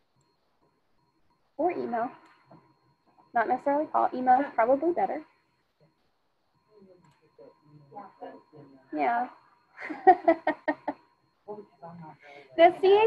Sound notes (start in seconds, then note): 9.8 laughs; 11.9 student speaking faintly